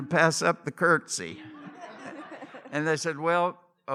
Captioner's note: laughter